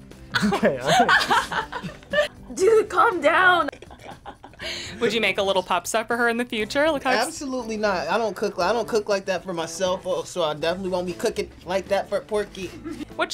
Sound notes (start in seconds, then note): 0.3 laughs